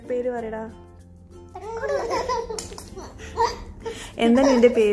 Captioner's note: laughing